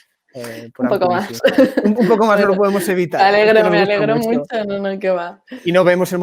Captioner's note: laughs